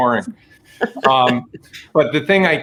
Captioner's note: laughing